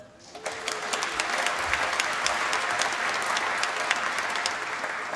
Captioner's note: applause